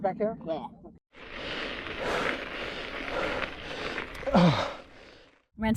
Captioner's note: heavy breathing